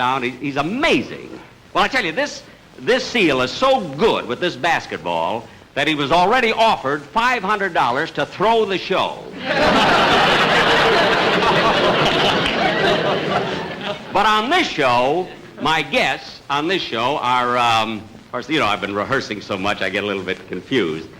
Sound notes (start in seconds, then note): 9.3 audience Laughing